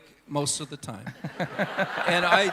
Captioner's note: congregation Laughing